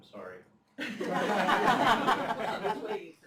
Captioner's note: laughter